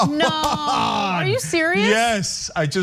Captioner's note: laugh